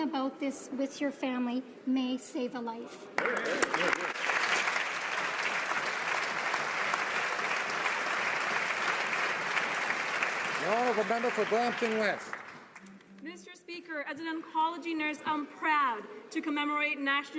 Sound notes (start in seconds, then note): 6.6 applause